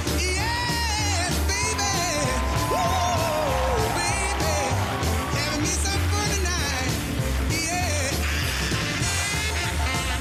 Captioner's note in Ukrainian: оплески